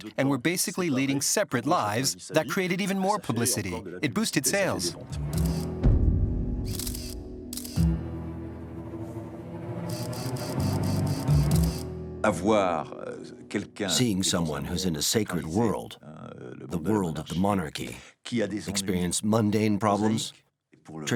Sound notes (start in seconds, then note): 5.0 dramatic music; 5.3 clicking